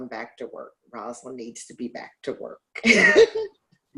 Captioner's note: laughs